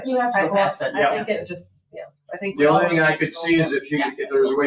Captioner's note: people chattering